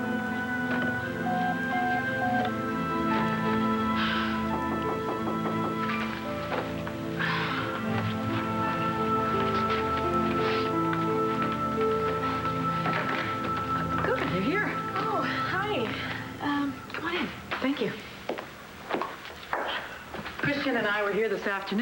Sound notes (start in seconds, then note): 2.6 answering machine beeps; 4.6 knock on door